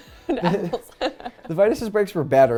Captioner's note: laughs